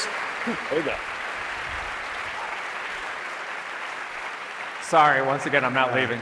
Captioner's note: applause